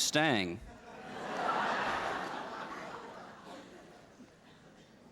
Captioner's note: laughter